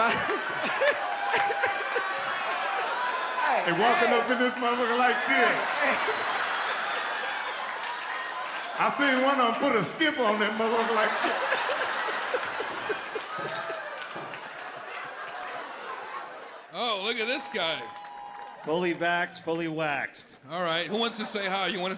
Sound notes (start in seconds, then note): 0.0 audience laughs; 0.0 they laugh; 6.3 audience laughs; 12.4 audience laughs